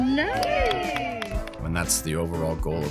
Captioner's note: clapping